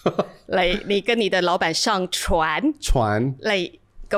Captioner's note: laughs; speaking in Mandarin